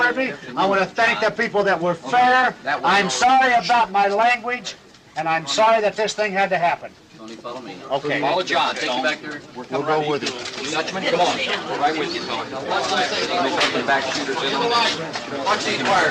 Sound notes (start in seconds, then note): 9.0 group chattering; 13.1 cameras clicking